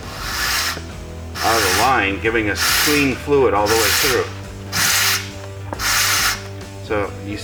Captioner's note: whooshing noise